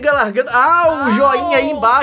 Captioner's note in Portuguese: Exclamação de dor, eles não estão latindo